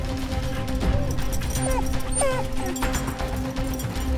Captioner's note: Dog Cries